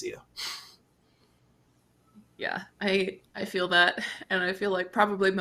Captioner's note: chuckles